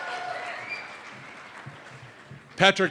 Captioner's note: cheers and applause